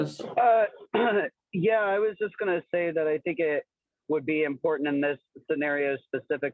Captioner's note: cough